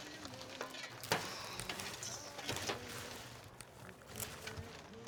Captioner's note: none